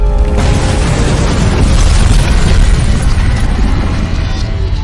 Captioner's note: explosion booming